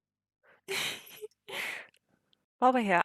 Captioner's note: laughs